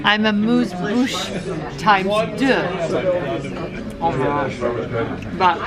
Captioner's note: speaking in foreign language